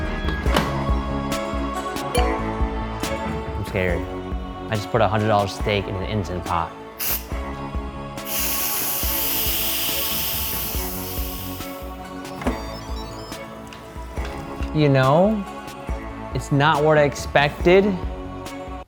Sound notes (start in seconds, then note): 0.0 ominous music; 2.2 bell dinging; 8.2 pot hissing